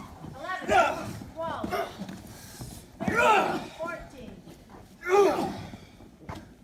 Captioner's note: grunting; grunting